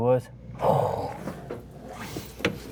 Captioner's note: sighing